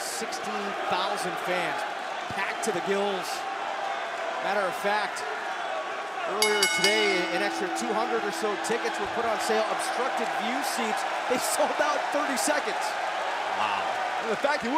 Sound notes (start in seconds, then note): 6.4 bell ringing